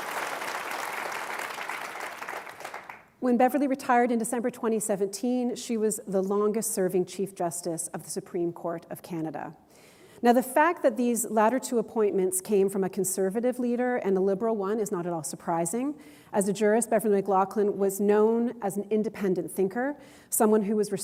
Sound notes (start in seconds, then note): 1.7 applause